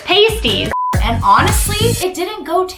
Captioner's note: beep